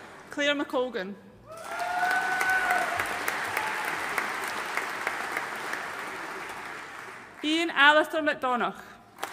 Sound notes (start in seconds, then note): 1.5 audience cheering and applauding